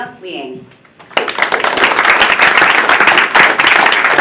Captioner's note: applause